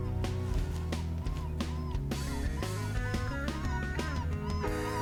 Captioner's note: animal call